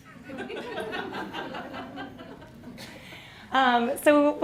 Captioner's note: all laughing